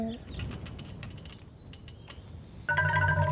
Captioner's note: wind whooshes; tree creaking